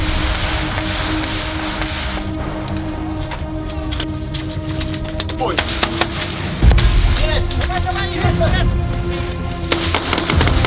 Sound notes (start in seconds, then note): 5.3 shooting sounds